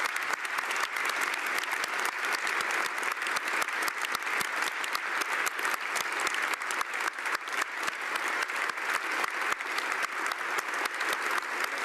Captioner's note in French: Applaudissements